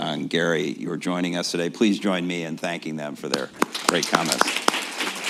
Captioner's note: applause